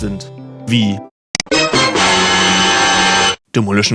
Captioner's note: dramatic noise